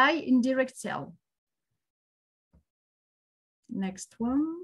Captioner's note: silence